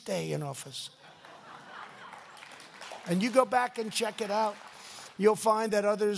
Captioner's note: laughter